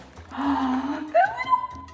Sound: inhales loudly

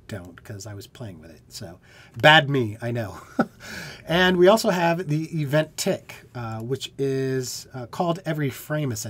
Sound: laughter

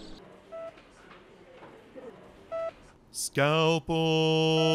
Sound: heart monitor beeping

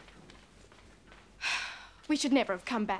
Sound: sighs

